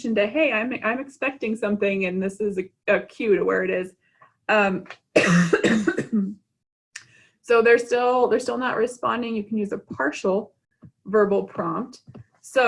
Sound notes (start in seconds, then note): 5.1 coughing